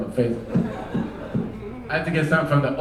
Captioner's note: microphone thumping